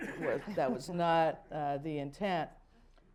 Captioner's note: laughter